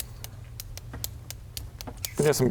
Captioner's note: indecisive pen clicks